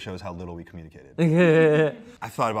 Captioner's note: laughs